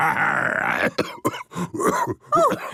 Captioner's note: growls; cough